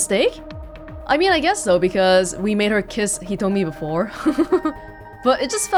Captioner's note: chuckles